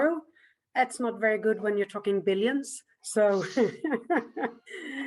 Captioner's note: laughs